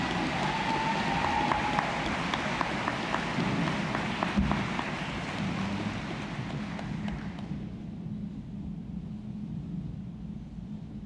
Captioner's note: applause